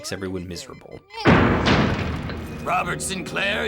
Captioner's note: door banging open